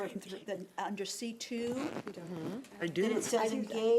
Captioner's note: chattering